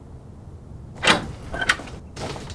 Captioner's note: gate opens